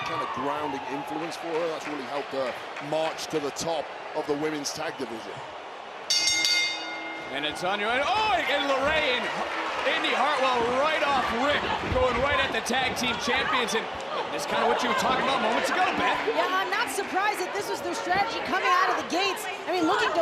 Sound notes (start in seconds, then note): 6.1 bell rings